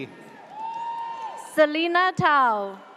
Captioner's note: audience cheers